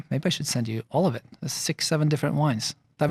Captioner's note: none